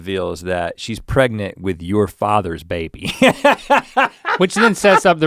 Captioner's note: laughs